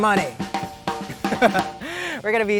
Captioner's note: laughs